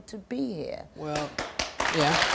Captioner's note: clapping